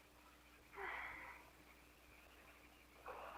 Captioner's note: Liz sighs